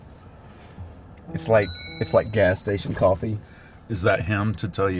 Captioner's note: phone pinging